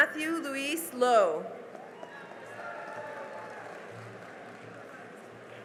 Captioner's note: cheering and applause